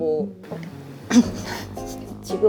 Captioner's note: gulps